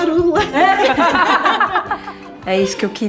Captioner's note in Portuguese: risos